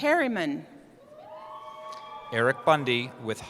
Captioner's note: cheering